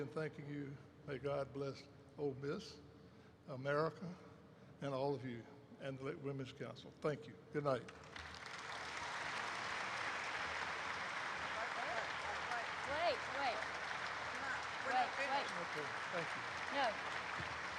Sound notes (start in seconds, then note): 8.0 applause erupts; 13.3 applause continues; 17.5 applause continues